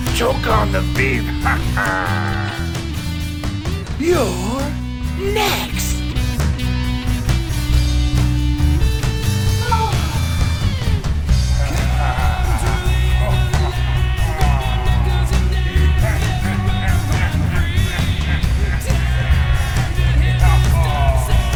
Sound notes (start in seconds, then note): 3.0 laughs; 6.6 hard rock music continues; 9.8 Tara groans; 11.8 Mitch laughs; 16.4 Mitch laughs